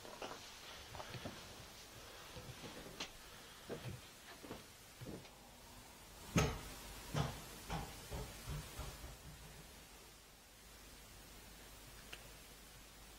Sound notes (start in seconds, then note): 5.9 sound of ball bouncing